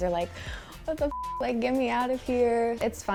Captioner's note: beep